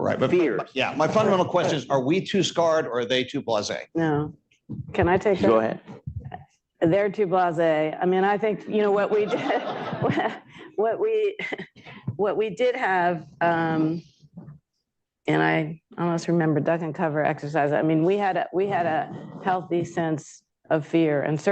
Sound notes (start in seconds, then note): 11.5 laughter